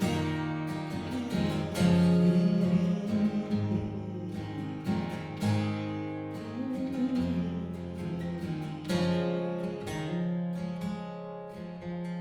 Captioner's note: humming